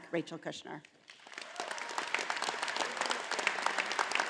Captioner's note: all applauding